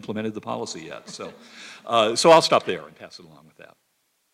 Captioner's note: laugh